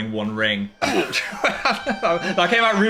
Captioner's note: Phil laughs; "Roblox" death sound